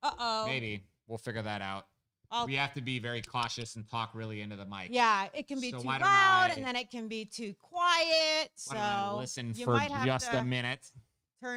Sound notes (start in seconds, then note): 6.2 mumbles